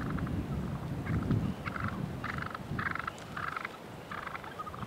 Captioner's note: turkeys purring